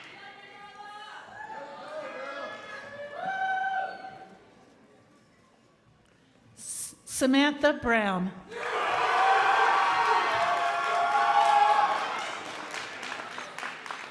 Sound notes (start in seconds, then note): 8.6 crowd applauding